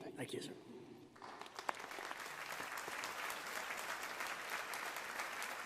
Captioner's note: audience applauding